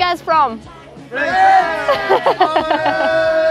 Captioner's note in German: Brüllen alle durcheinander